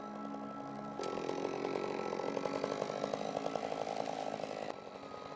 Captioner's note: chainsaw buzzing